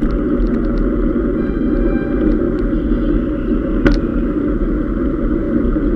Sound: calls of cyclists

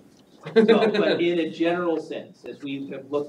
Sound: laughing

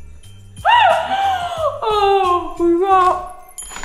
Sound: festive music; laughs

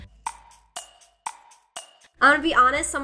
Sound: clock ticking

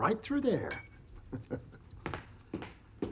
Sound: chuckling

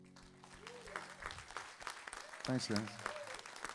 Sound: audience cheering

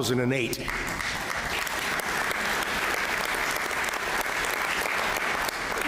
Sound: applause

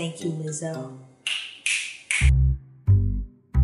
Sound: snaps; bass music

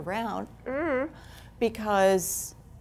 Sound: groans

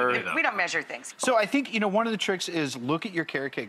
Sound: none

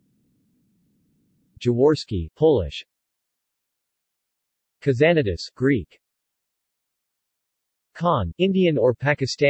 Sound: Polish

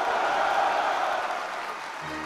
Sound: applause

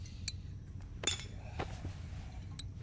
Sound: bottles tinkling

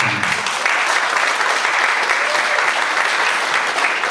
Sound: audience applauds

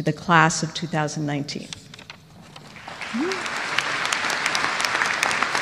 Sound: applause

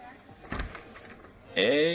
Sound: door opens

